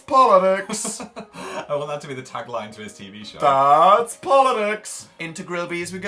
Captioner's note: laughs